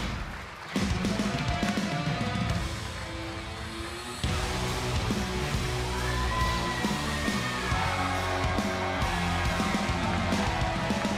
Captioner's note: cheers and applause